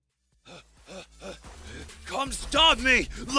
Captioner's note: panting